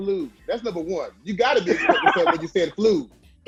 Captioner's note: laughing